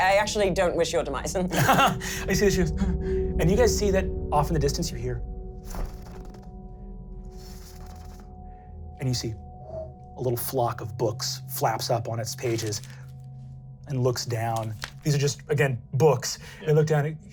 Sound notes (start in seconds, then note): 1.4 laughing; 2.0 paranoid gasping; 5.6 pages fluttering